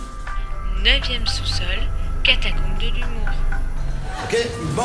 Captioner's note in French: Voix d'ascenseur